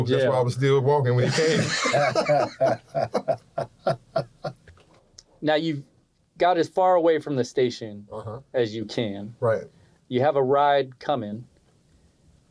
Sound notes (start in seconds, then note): 1.2 laughter